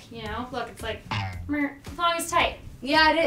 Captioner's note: rubber twang sound